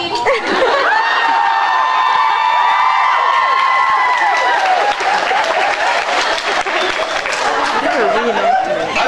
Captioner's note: laughs, cheers, applauds